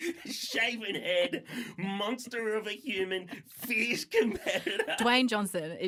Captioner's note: laughter